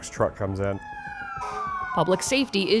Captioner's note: siren wailing